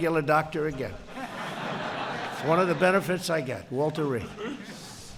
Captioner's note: laughter